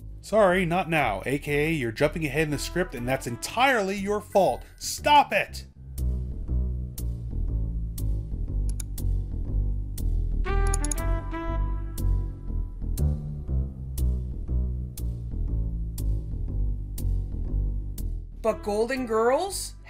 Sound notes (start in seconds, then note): 8.6 sounds of mouse clicking